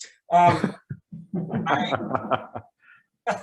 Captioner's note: people laugh